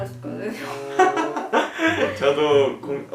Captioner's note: laughing